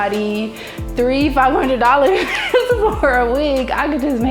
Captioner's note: laughs